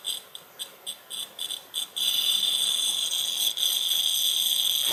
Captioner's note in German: Knistern wird hörbar